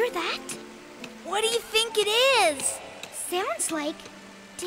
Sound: water rushing

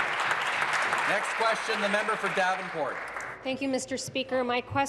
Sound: applause

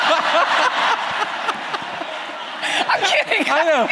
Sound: laughter

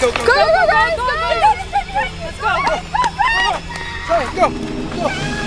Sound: family screaming

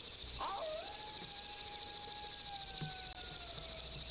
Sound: coyote howls

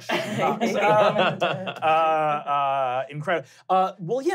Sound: laughing

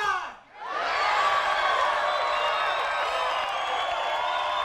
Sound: crowd cheers

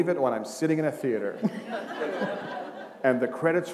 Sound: laughter

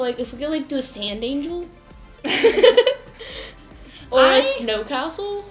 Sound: laughter

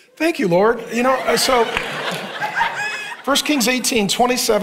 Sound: congregation laughing

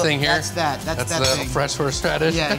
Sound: laughs

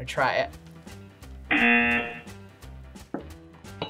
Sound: buzzer rings

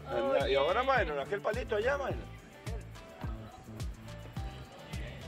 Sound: man speaking in foreign language

